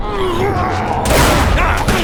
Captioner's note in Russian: риддикий рёв; паф